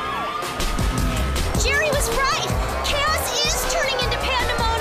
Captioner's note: sirens